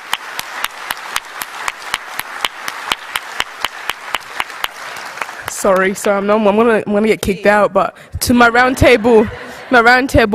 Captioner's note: applause